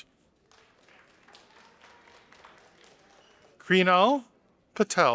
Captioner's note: audience applauding